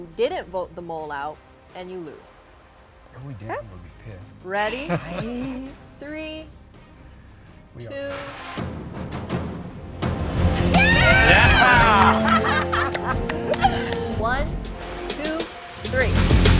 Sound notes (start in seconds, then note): 10.7 everyone cheering